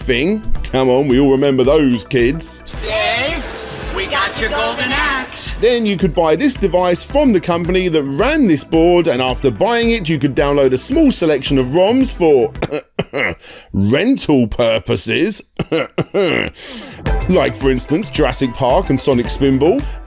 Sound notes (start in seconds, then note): 15.5 cough